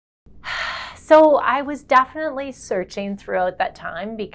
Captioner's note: sighs